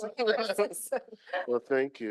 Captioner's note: laughing